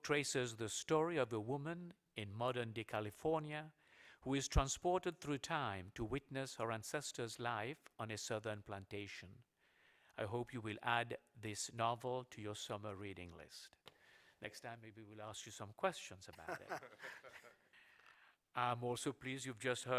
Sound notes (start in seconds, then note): 16.3 laughter